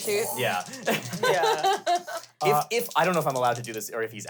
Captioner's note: laugh